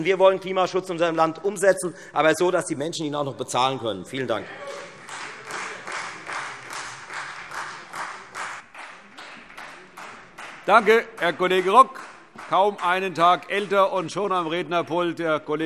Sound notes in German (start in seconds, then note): 4.6 Beifall Freie Demokraten